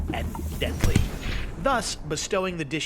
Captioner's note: basket booming